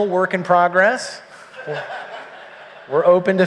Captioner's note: laughter